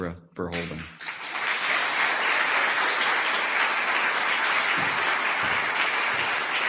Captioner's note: audience applause